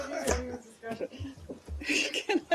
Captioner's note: laughter